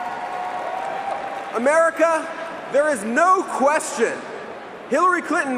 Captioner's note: cheering and applause